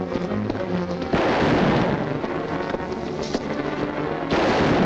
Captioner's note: gun firing